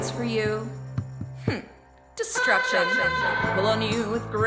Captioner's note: hmph